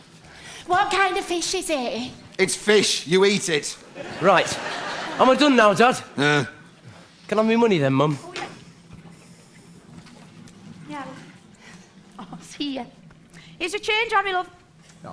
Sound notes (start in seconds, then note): 5.7 grunts